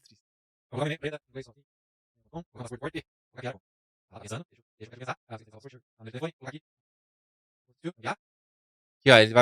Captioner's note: speed talking